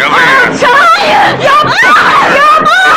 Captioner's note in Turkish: Yapma çığlıkları inlemeler